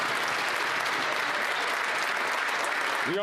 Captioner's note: some Applause